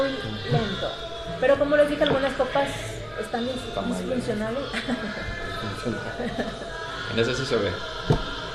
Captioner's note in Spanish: risas